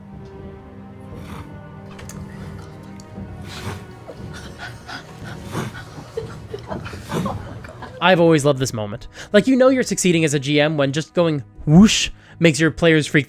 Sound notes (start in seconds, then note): 1.1 wingbeat noises